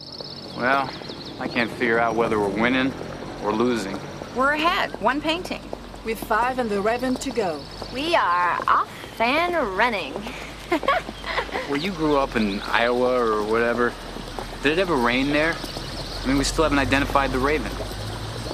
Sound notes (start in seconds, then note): 10.2 laughs